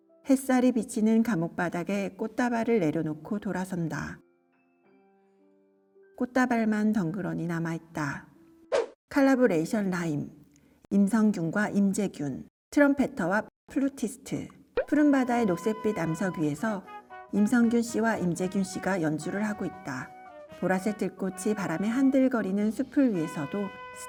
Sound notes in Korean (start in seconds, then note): 8.7 휙! - 효과음; 14.7 뿅! - 효과음